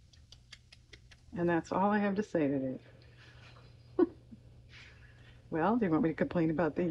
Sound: laughs

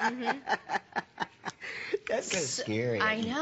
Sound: laughter

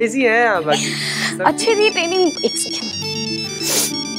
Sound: mobile ringing

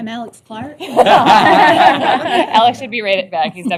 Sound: laughter

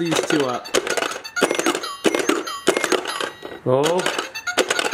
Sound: music toy beeping

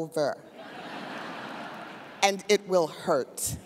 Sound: audience laughs

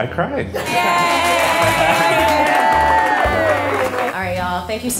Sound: crowd cheering and clapping

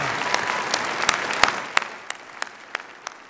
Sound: applause

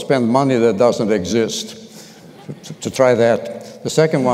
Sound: laughter

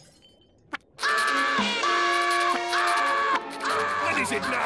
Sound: screaming

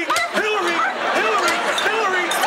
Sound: barks

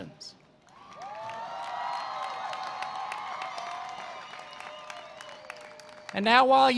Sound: cheering and Applause

